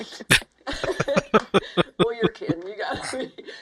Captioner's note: laughing